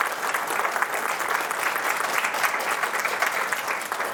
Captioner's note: audience applauds